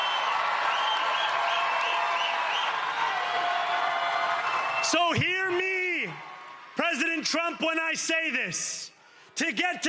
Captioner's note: cheering